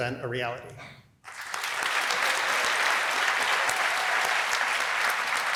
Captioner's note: applause